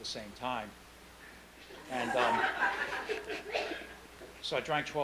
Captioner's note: laughing